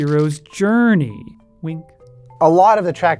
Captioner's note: wink sound effect